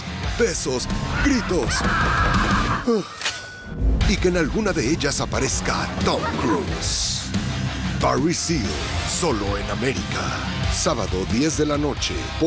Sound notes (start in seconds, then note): 1.1 screaming; 2.8 sigh